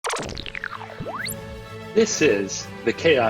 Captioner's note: futuristic sounds